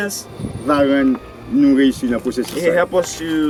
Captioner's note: speaking in foreign language